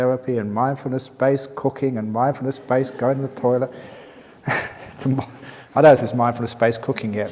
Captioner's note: chuckle